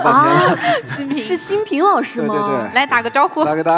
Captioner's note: surprised